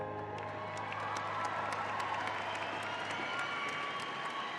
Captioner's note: audience applauding